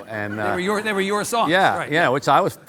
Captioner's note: audience laughing